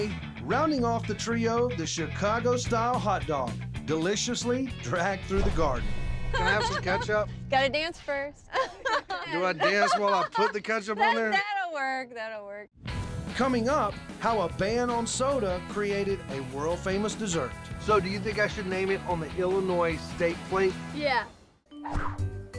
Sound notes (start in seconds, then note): 8.5 laughter